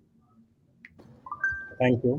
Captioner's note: alert pings